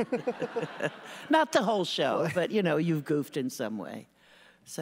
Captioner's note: laughter